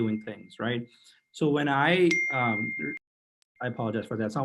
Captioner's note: message alert tone